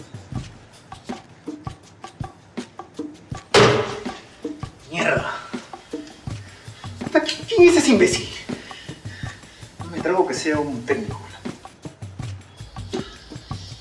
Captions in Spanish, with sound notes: (Golpe de madera) ¡Mierda!!! ¡Puta quien es ese imbécil? No me trago que sea un técnico.